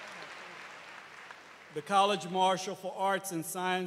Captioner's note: cheers and applause